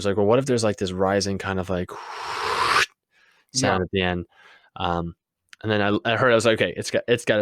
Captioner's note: woosh